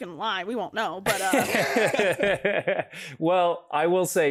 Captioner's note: Freddie laughs